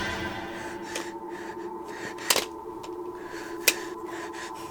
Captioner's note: panicked breathing